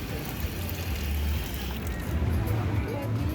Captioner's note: sound of water running from the tap